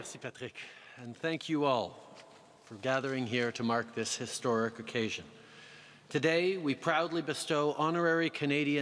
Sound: speaking french

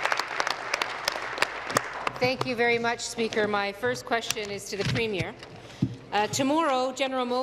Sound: applause

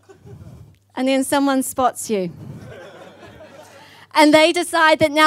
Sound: audience laughs

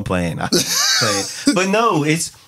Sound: laughing

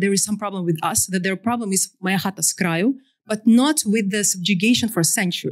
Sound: non-english

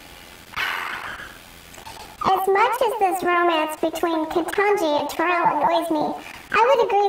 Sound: sighs

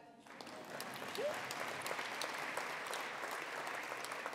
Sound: attendees applauding

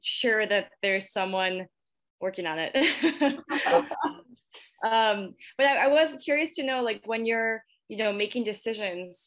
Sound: chuckle

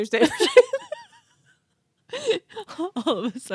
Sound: group laughs

